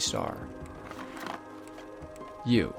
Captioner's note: box clicking